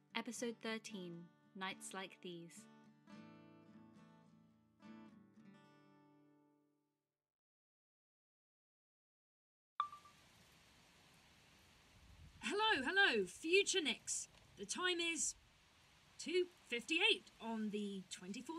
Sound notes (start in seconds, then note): 2.5 soft guitar music fades out; 9.8 chime of a phone recorder turning on; 10.5 distant rain